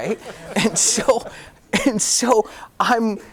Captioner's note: audience laughing